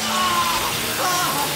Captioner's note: static